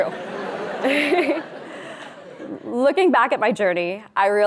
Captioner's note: audience laughing